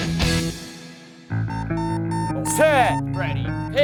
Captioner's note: beeping